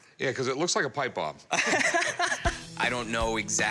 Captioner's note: laughter